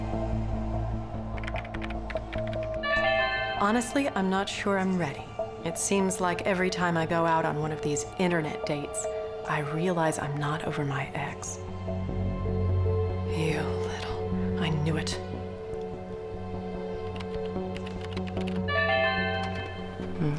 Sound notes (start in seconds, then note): 1.3 typing; 2.7 chime; 17.0 typing; 18.6 chime